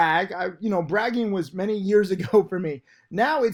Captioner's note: laughs